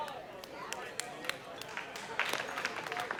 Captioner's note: weak applause